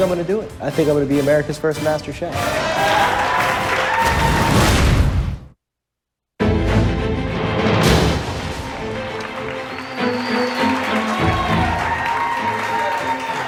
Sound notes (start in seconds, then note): 2.4 cheers and applause; 8.8 cheers and applause